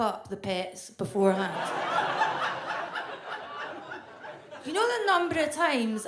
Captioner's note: audience laughs